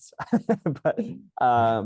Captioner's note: laughs